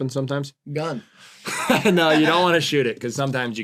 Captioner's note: laughs